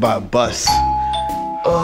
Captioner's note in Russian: динь дон